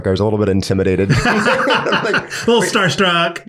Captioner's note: everyone laughs